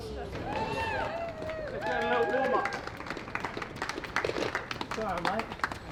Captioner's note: cheering